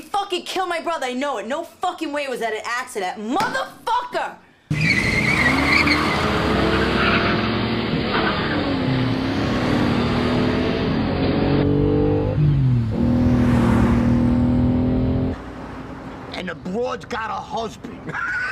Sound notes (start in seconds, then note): 5.0 tires screeching; 12.1 engine revving; 17.8 all laughing